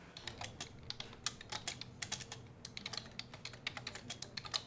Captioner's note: keyboard tapping